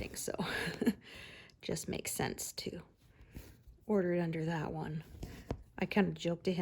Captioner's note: laughter and gasps